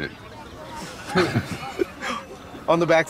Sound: both chuckling

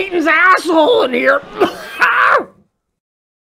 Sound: sound of a man dying by fart inhalation

